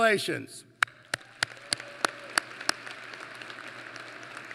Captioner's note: applause